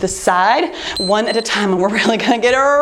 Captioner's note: timer beeps